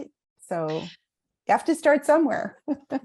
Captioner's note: laughs